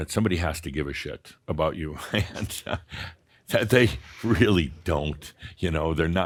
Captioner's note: Adamus chuckles